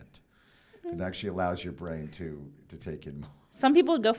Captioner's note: chuckles